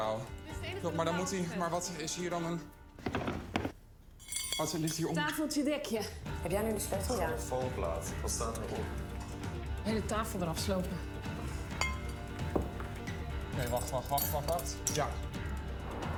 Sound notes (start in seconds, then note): 4.2 clink of cutlery